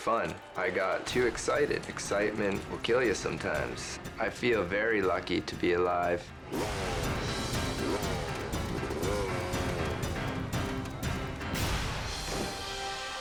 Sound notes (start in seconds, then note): 6.6 engine growls; 10.2 dramatic music